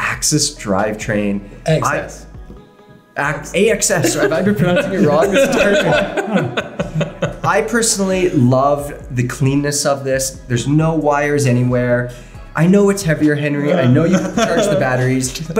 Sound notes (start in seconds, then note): 3.9 laughing